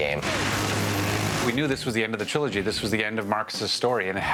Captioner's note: gunfire